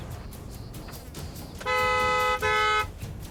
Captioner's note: honks horn